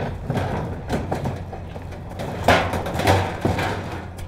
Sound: trashcans clatter

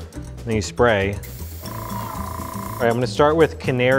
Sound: air blowing

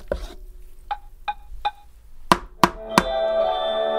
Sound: tap, Tap, Tap

